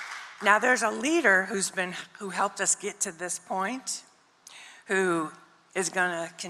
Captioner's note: cheering and applause